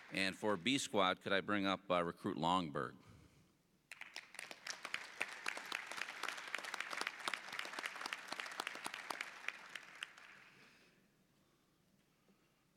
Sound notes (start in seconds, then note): 0.0 applause; 3.9 applause